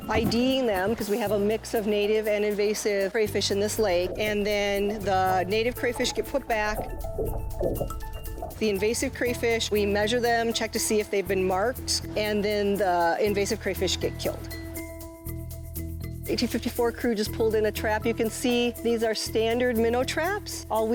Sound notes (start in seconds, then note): 7.0 water sloshes; 14.6 upbeat percussive music